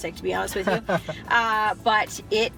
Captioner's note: laughing